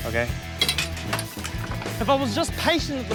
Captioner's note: clattering